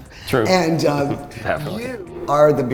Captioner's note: chuckles